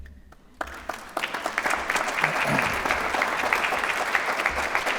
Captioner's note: applause